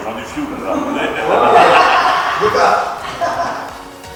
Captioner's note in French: rires